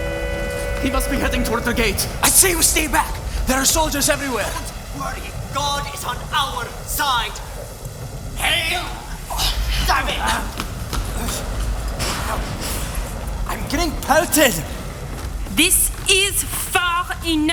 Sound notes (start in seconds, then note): 7.2 storm sounds